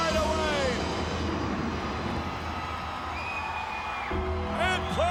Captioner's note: thunder rumbling